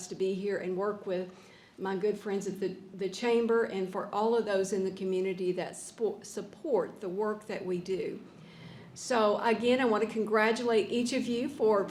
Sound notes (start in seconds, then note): none